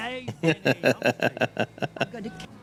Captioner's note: laughing